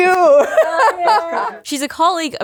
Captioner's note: laughing